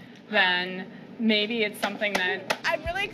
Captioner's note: gasps